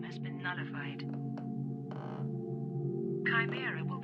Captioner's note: floor creaking